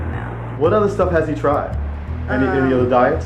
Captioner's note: voiceover